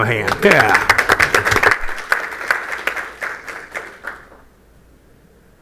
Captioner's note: applause